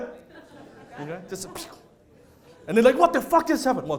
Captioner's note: laughter